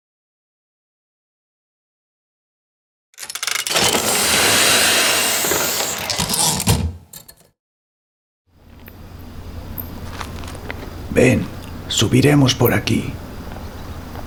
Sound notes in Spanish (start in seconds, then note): 3.2 Ruidos mecánicos y retorno de carro de una máquina de escribir